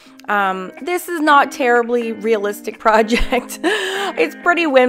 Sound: chuckles

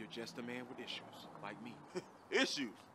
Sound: chuckles

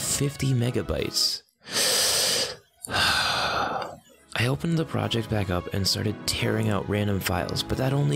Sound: breath in and out

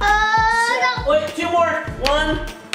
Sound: screams

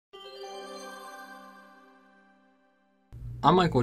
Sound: chime trilling

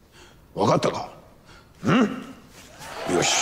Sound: talking in Japanese; applause

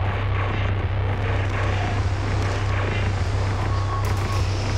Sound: gunfire

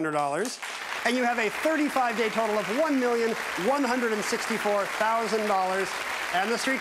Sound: audience clapping

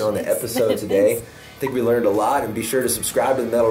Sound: laughs

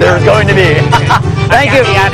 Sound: speaking indonesian

